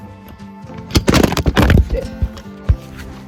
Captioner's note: camera falls